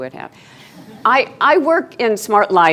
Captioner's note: laughing